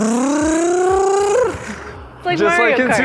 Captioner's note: blowing air